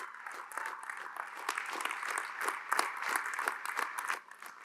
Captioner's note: applause